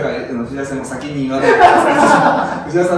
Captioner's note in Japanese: 爆笑